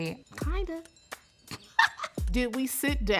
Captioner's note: laughs